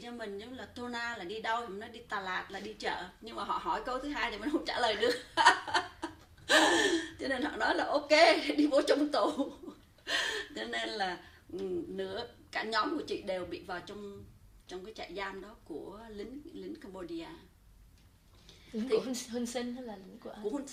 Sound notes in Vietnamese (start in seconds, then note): 6.4 laughs